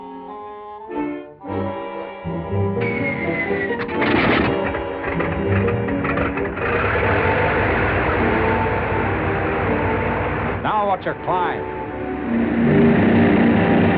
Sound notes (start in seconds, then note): 0.2 dramatic music; 2.7 plane whirring; 2.8 whistle blowing